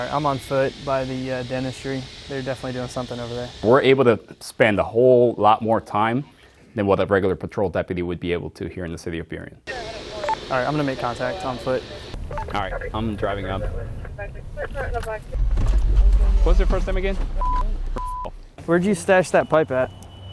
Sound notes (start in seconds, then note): 17.4 beep